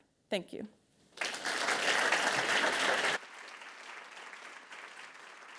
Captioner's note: attendees applauding